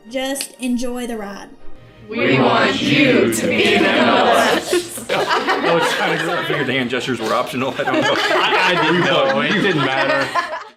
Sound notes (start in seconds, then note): 4.7 laughter; 5.2 background chatter and laughter as audio fades